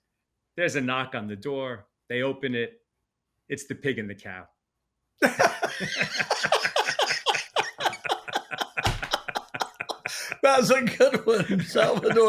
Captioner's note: laughing